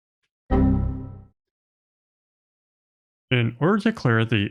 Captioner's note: computer error sound